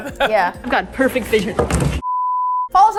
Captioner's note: laughs; smack